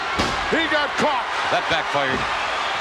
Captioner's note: audience cheers